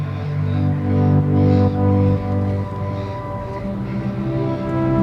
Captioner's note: birds chirping